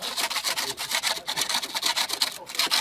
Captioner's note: scratching noises